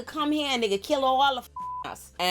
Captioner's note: beep